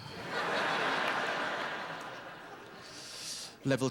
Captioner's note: laughter